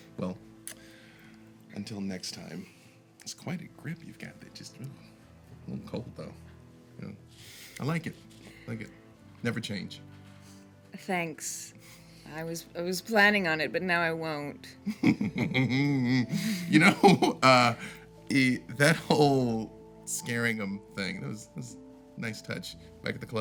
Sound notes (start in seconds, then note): 14.9 Victor chuckling